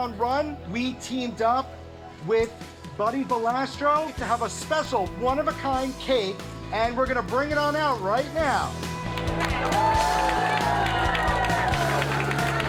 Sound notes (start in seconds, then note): 9.2 people cheering